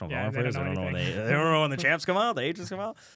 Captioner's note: laughs